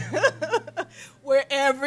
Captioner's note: laughter